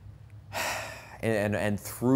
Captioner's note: sigh